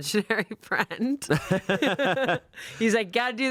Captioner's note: laughing